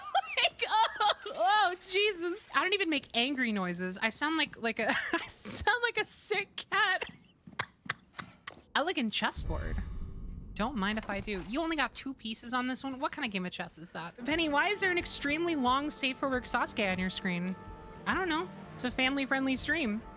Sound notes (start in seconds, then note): 7.0 laugh